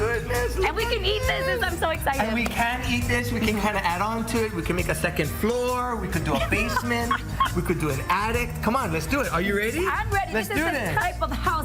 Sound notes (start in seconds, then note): 6.2 laughs